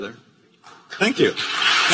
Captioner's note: applause